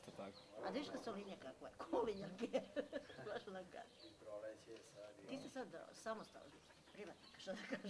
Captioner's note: laughter